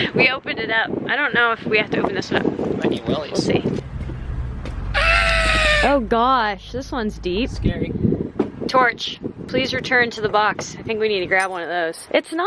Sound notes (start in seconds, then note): 4.9 screaming